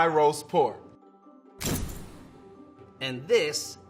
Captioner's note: pounding